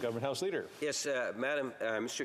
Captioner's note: speaking French